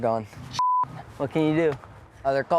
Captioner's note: beep